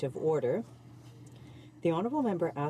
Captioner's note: speaking French